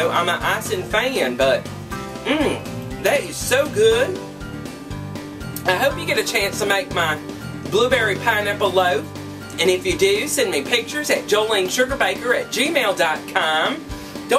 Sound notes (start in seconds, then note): 2.2 mmmm